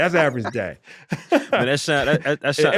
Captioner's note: laughter